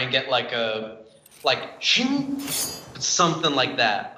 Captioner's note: metal scraping